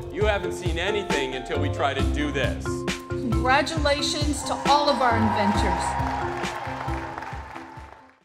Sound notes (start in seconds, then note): 5.5 crowd cheering and applauding; 7.3 upbeat music ending